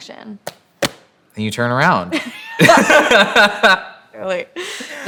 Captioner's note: laughter